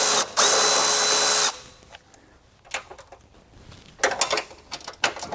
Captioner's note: drilling